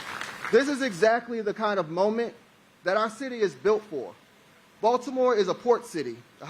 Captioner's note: applause